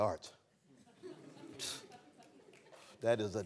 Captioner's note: laughter